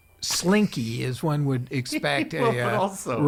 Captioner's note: laughing